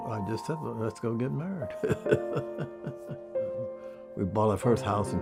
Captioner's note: laughs